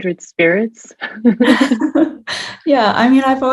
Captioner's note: both laughing